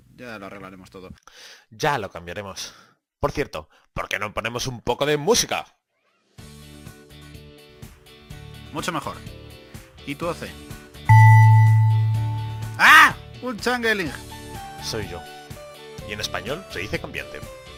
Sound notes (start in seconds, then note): 11.1 ding